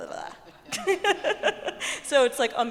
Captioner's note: laughing